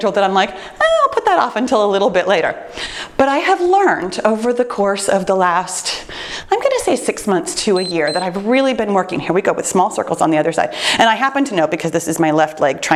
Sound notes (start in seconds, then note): 7.7 timer beeps